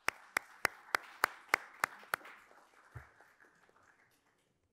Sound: audience applauds

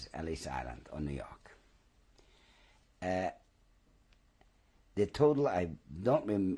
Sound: pauses for 3 seconds

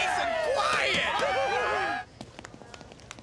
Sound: <i>cheering</i>

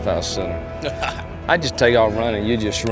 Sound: laughing

